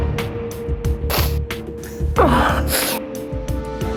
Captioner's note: sniffs